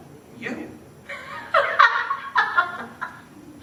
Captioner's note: laughing